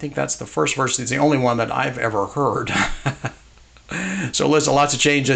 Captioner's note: chuckles